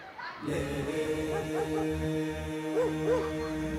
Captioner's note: children yelling; dogs barking